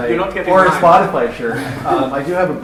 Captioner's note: laughter